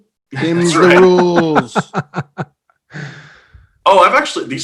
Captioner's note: laughing